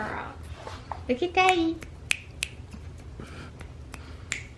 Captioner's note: snaps